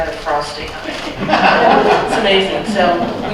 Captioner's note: laughter